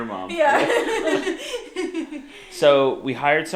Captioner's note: laughing